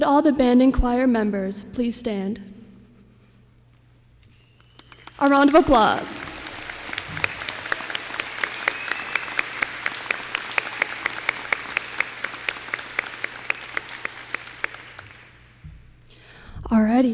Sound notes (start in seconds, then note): 7.0 applause